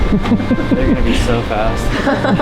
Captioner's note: laughing